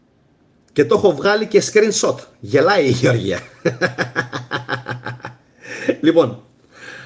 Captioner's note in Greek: γέλια